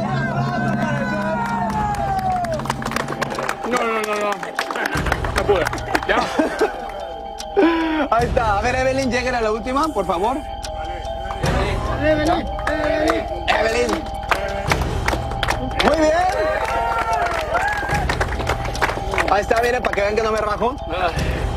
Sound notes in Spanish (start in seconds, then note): 11.3 aplausos